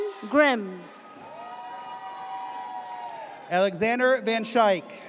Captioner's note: audience cheers